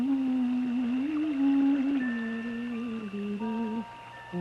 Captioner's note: water splashing